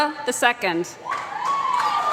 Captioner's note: applause